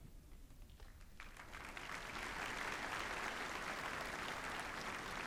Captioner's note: applause